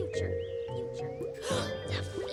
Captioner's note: gasps